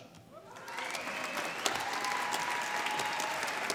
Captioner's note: applause